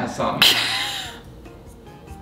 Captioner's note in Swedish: skrattar